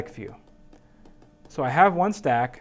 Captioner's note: tapping